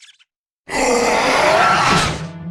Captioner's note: roars